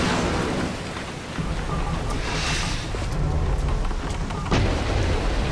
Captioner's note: rushing of water, screeching of metal; quiet grumbling of mechanisms; rushing of water, screeching of metal